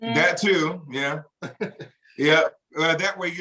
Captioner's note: chuckles